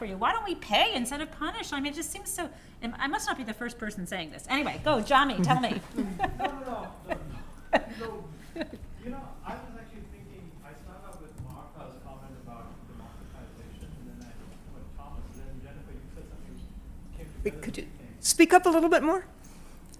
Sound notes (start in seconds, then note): 5.4 laughter